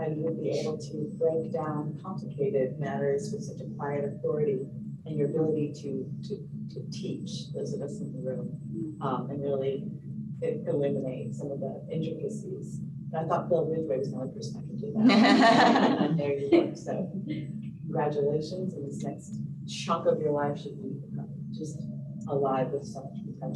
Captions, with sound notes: was the only person that could do that. [LAUGHTER] Congratulations and this next chapter of your life should we just alive with so